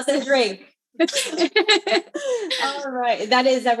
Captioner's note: laughs